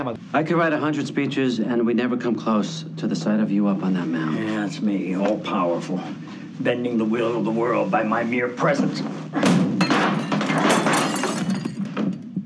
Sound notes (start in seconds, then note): 9.4 baseball thudding against wall, crashing into lamp; 9.8 lamp clatters onto the floor